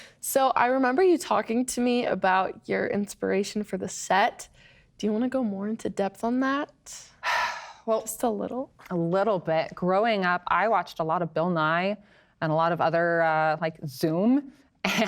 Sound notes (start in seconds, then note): 7.2 sighs